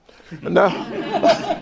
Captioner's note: laughter